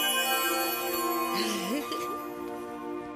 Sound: Ester chuckles

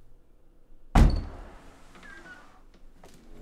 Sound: door opens

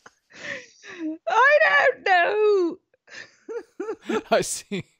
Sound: laughing

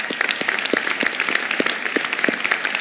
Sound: applause

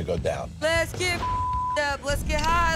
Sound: beep

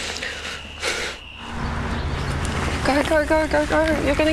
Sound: Ingrid sighs

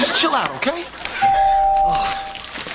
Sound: doorbell rings

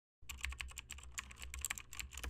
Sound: typing sound

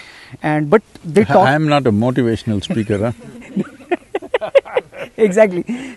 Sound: laughter

